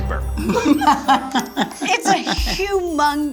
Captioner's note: laughs